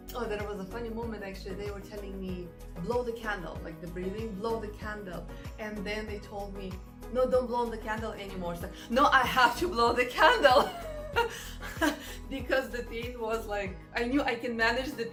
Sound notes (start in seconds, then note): 10.5 laughs